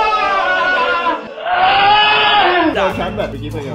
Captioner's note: sad music playing; screams